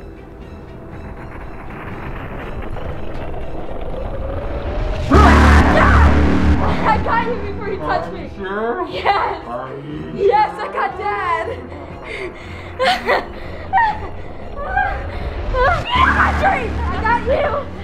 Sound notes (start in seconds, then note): 1.7 music intensifies; 5.8 yells; 13.1 gasps and laughs; 16.0 screams